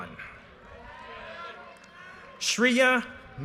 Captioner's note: audience cheers and applause